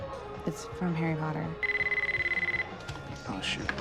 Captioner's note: cell phone ringing